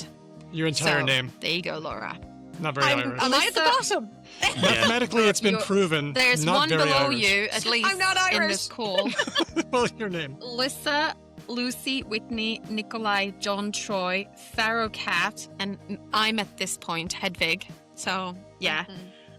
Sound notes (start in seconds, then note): 4.4 laughs